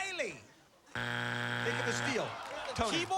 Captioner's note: buzzer